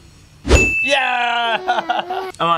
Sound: ding

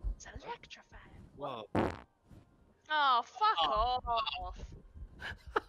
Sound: farts into the mic and laughs

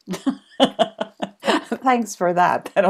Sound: laughs

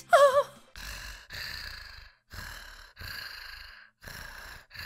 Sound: hard breathing

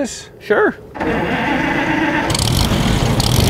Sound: car engine purring; car engine revving

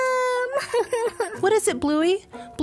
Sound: Bluey sobs

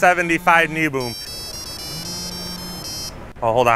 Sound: phone rings

